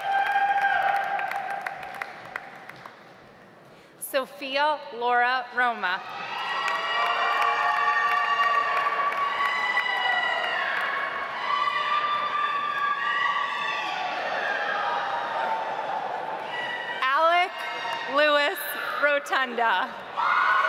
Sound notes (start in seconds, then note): 0.0 audience applauds; 6.3 audience applauds